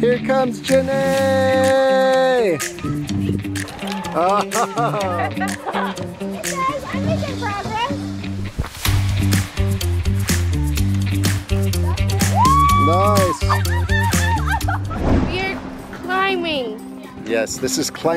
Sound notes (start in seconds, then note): 4.1 laughs; 11.8 child exclaims; 14.2 children cheering